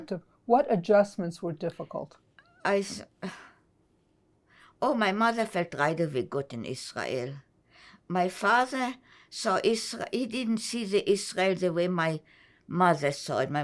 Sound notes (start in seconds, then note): 3.3 sighing